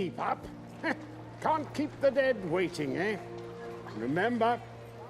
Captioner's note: chuckles